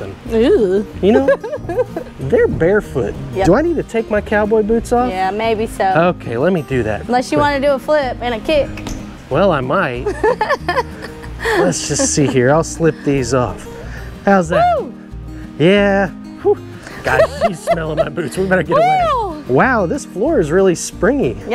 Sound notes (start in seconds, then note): 1.0 laughs; 8.7 foot thumps; 10.0 coach laughs; 19.0 laughs